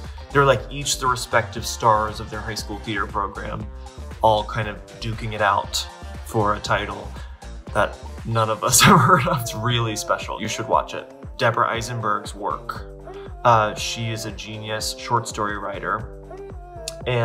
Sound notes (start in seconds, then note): 8.9 laughs